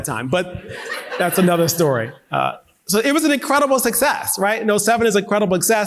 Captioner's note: audience laughing